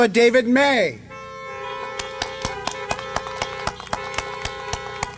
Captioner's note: applause